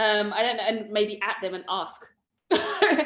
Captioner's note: laughs